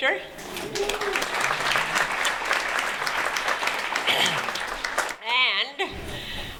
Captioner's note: applause